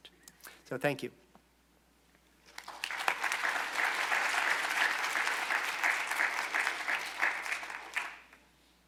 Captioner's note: applause